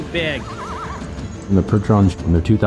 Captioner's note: horse whinnying